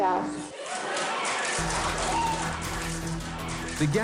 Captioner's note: cheers, applause